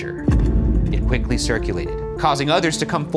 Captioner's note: impact slamming